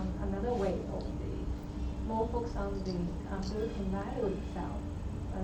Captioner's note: faintly speaking